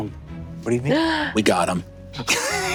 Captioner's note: gasps